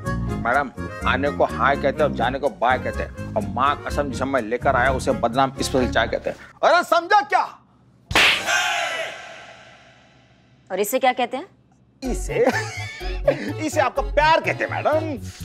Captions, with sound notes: Madam, coming in, you say hi and when going out, you say bye then. And for whatever I bring today, you say Badnaam's special tea Did you get it? [slapping] And what do you say for that? We say that's your love, madam.